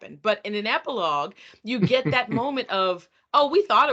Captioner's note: laughing